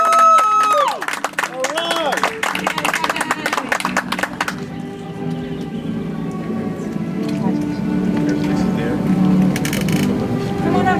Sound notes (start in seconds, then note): 2.4 audience applauds; 8.3 soft music